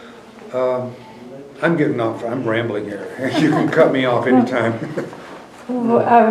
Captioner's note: laughter